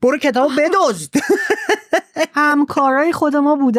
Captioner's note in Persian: خنده